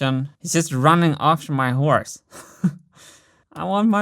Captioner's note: chuckles